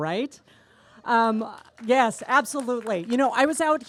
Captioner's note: applause